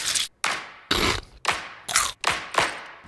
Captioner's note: Crunch